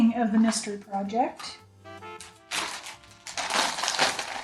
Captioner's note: crinkling